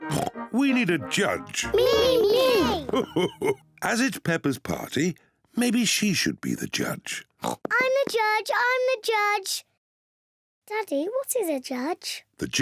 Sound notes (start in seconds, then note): 0.0 oinks; 1.6 laughs; 7.4 oinks